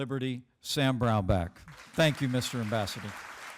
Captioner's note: applause